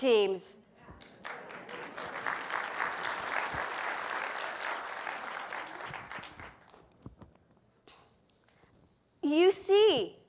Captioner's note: applause